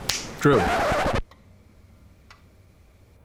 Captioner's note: snaps fingers; record scratching sound